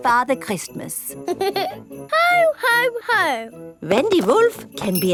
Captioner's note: giggles